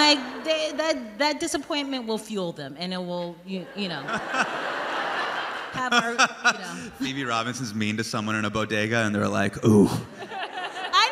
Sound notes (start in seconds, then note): 3.6 crowd laughing; 5.7 Hasan laughing; 10.0 crowd laughs